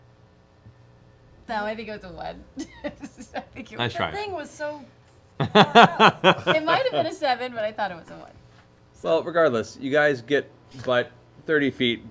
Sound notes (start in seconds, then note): 2.6 laughing; 5.4 laughing